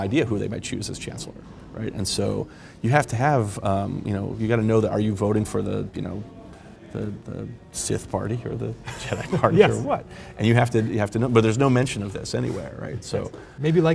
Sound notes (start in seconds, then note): 8.8 chuckles